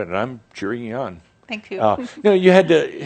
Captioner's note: she giggles